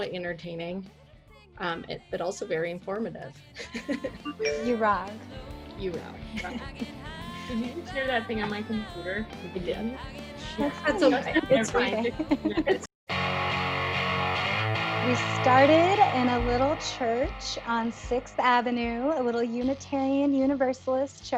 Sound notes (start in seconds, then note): 4.2 notification chimes